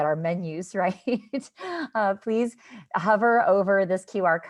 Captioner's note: laughter